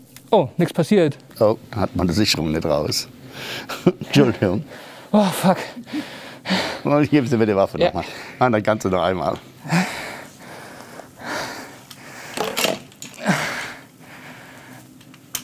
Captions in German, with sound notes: Oh. Nichts passiert. Oh, dann hatten wir die Sicherung nicht raus. Entschuldigung. Oh, fuck ... Dann geben Sie mir die Waffe noch mal. Dann kannste noch einmal. (Schweres Atmen)